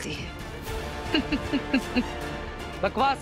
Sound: laughing

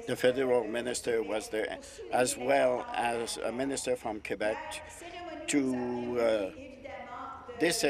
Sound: speaking in French

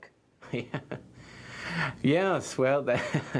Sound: laughter

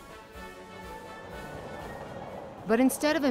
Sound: train clacking

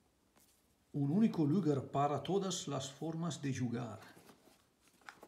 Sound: in Spanish

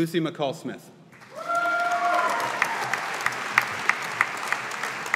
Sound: audience applauding

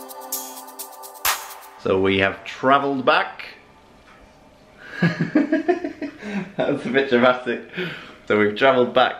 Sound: laughs

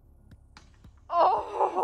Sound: smack

